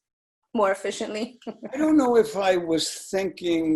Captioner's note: laughing